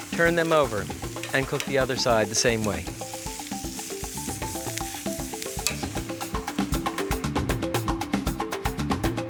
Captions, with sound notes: turn them over and cook the other side the same way. (upbeat music) (sirloin sizzling)